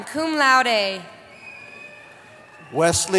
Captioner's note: cheering